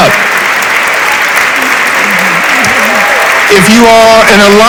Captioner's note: audience applauds